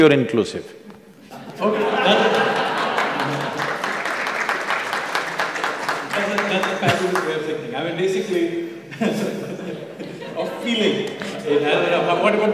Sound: laughter/Applause; laughter; laughs

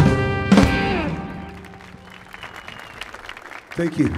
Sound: audience cheering; audience clapping

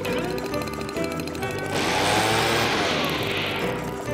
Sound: blowing engine

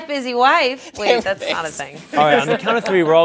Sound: laughing

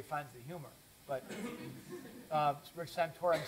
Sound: laughter

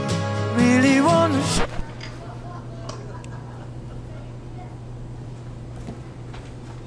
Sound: record screeching; people chattering

